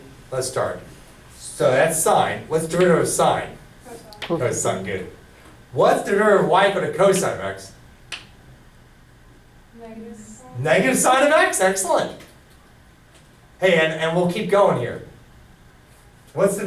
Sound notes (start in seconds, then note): 8.2 voiceover